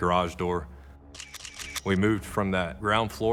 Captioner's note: camera shutter clicking